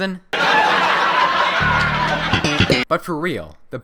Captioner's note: uproarious laughter